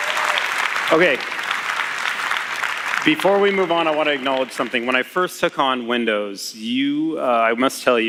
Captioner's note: applause